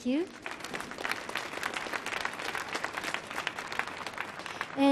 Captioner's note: audience clapping